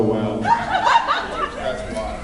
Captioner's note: laughs